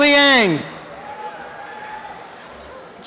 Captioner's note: cheering and applause